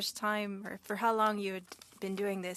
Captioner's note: speaking French